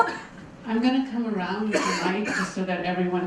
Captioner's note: voiceover